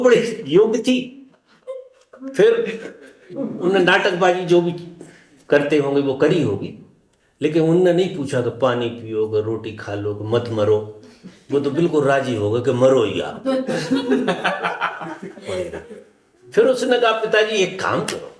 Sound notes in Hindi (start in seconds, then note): 13.6 हंसी